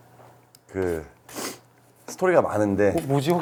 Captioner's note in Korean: 쿨쩍